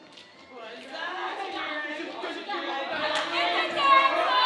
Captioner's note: group chattering